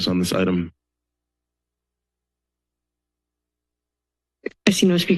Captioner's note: silence